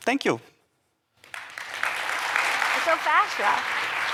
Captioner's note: applause